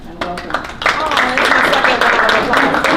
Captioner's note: applause